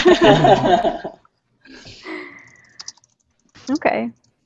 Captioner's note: laughter